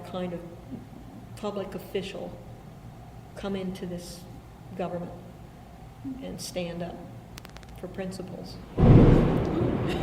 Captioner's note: thunder